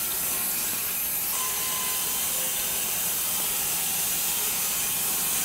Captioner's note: machine sawing